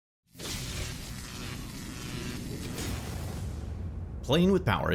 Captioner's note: electricity crackling